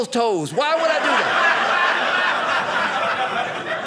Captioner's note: audience laughing